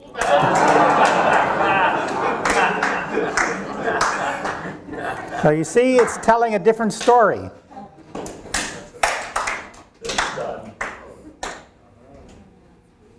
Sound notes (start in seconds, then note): 0.0 audience laughing; 0.0 audience laughing and clapping; 8.1 several claps